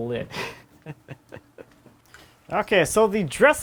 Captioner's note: laughing